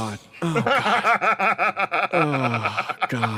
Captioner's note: laugh